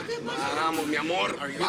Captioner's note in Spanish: Hablan al unísono